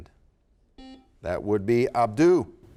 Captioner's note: buzzer sounds